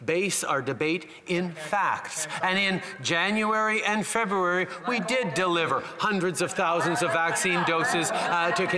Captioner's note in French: voix de l'interprète